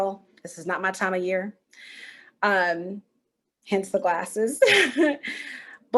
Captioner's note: chuckle